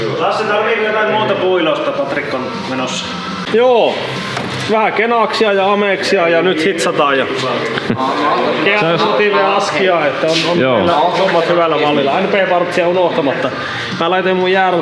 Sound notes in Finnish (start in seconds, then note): 8.0 naurua